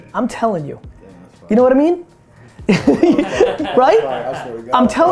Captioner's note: group laughter